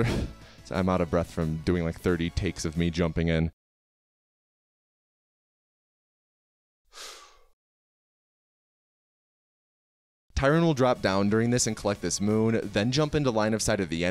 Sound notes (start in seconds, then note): 6.9 exhales